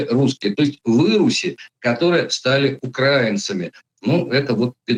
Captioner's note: slur